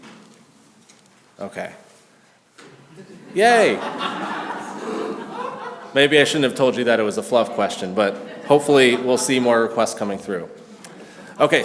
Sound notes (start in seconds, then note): 2.8 class laughs